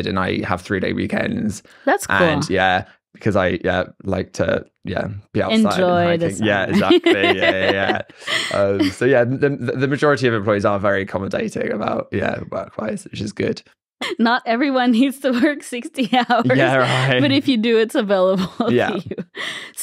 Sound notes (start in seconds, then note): 5.4 laughs